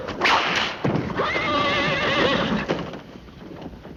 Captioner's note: whip cracking